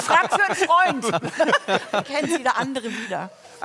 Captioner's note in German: Lachen